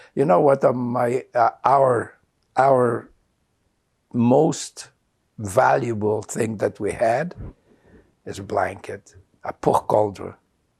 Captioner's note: non-english